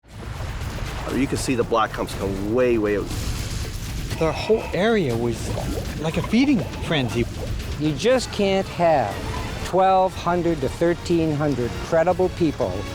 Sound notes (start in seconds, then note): 1.8 water churning